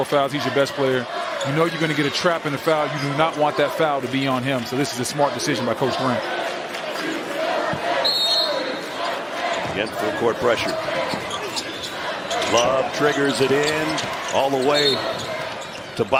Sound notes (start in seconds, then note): 8.0 whistle